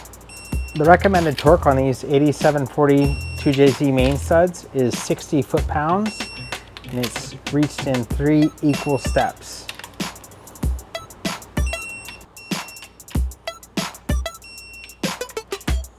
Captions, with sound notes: The recommended torque on these 8740 2JZ main suds is 60 foot-pounds and it's reached in three equal steps. [beeping]